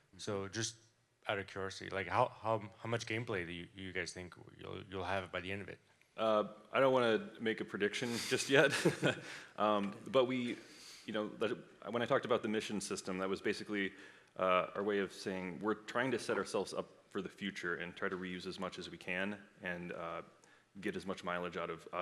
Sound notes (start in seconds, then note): 8.0 laughs